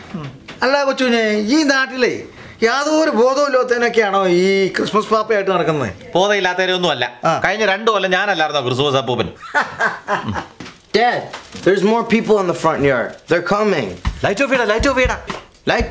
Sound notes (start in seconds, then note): 9.3 laughs